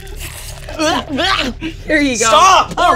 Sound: Bug gags

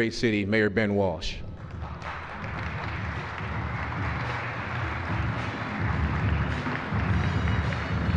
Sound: applause

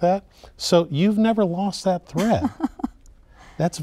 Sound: laughing

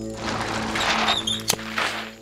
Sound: brake squeaking

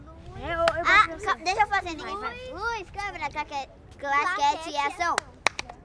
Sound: all speaking in foreign language

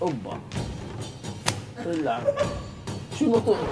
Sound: slapping noises

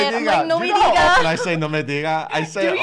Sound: foreign language

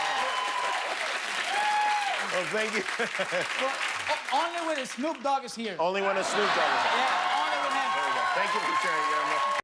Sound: cheers and applause

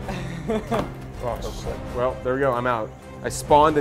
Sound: laugh

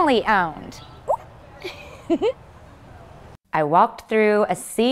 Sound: giggles

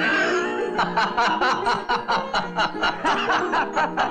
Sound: laughing

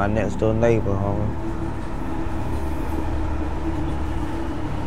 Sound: train chugging

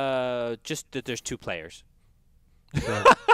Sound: laugh

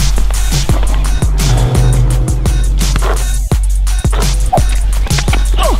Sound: swishing sounds

